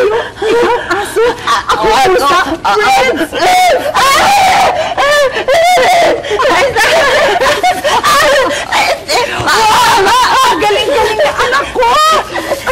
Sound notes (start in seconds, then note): 4.8 shrieking, laughing